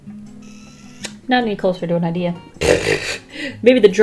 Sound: laughs

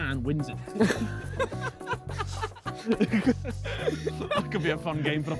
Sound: Vik laughing

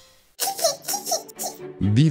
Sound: giggle

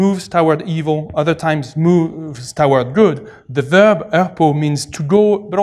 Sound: non-english

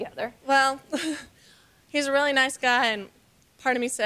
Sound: chuckles

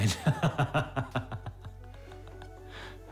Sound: laughing

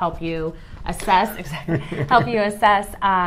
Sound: laughs

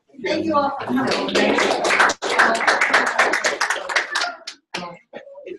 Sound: applause

